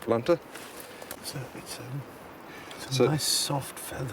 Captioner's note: Stephen speaking faintly